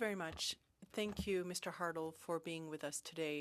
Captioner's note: speaking French